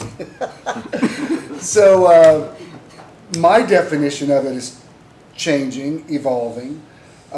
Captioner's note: laughter